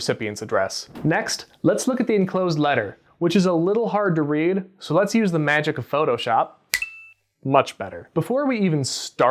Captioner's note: snap